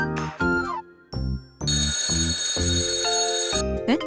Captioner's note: beep! Beep! Beep!